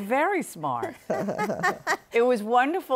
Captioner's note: laughter